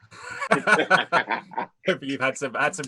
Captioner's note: laughing